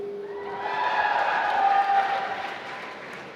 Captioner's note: applause